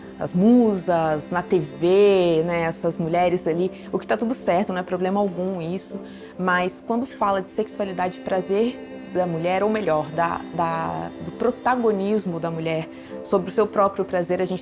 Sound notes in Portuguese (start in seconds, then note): none